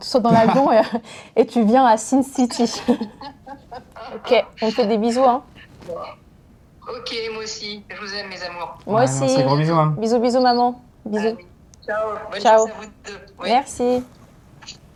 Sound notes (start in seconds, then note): 2.4 laughs